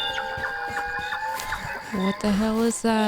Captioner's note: wendigo sounds continue